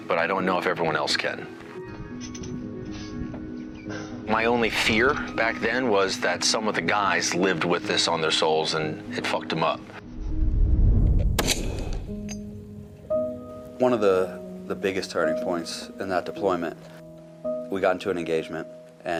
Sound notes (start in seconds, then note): 1.8 brooding music; 11.3 rifle cracks; 12.2 poignant music